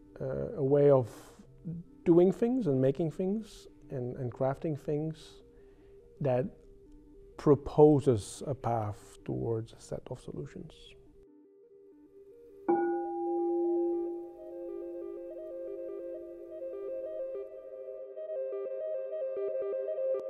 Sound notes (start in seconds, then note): 12.7 bell rings